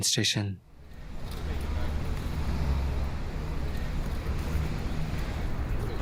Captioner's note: crowd Ambience